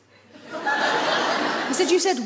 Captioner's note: audience laughs